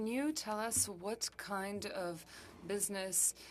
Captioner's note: speaking French